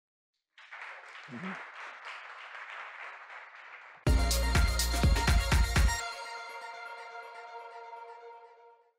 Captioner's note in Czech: Potlesk